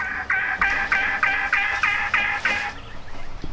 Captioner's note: bird squawking